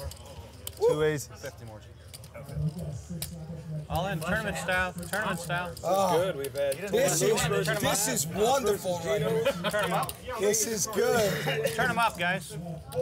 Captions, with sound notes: - Two aces. - All in tournament style, tournament style. - Augh! - It's good, we've had-- - This is, this is wonderful right here. (laughing) This is good. - Turn 'em up guys.